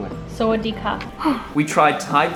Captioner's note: speaking foreign language